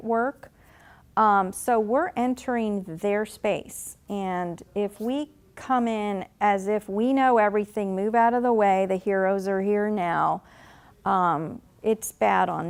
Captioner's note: sarcastically